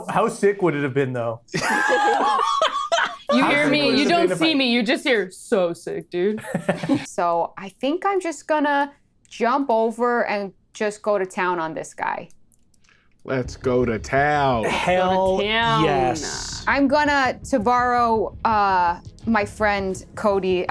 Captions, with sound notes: - How sick would it have been though? (laughs) - You hear me. - How sick would it have been if I- - You don't see me. You just hear, "So sick, dude." So I think I'm just gonna jump over and just go to town on this guy. - Let's go to town. - Let's go to town. - Hell yes. - I'm gonna, to borrow my friend, Cody,